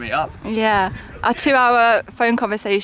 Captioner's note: none